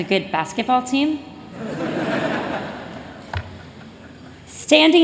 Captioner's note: laughter